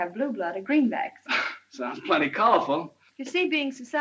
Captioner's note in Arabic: يضحك